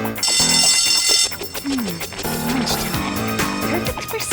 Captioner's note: bell ringing